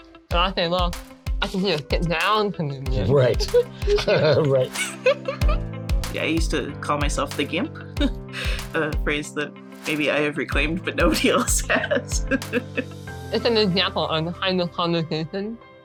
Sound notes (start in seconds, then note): 3.0 laughing; 11.2 laughing